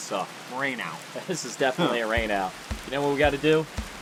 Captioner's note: laughs